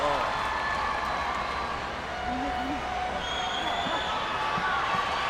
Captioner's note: spectators cheering